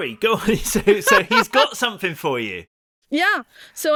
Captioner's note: laughs